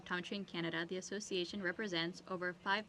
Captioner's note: speaking French